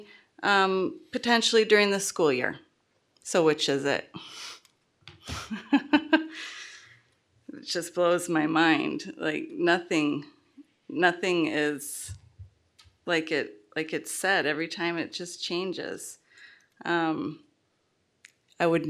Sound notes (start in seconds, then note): 5.2 laughter